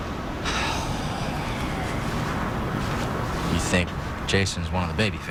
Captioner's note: sighs